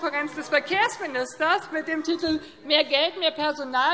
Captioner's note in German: none